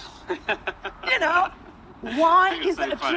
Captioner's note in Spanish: Jas se ríe